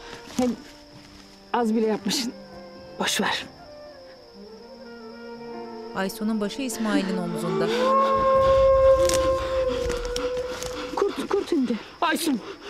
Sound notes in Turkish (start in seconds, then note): 7.3 Kurt uluma sesi; 7.4 Nefes sesi